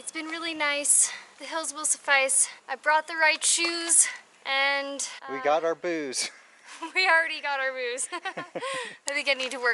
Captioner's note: laughter